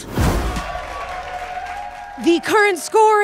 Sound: audience applauding

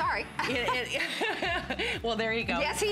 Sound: laughter

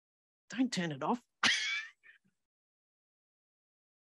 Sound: laughs

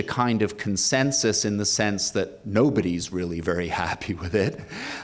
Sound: laughs

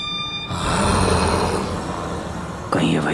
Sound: growling

